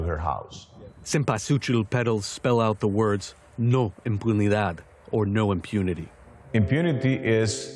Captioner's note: voice-over